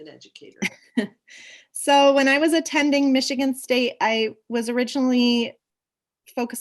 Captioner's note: laughs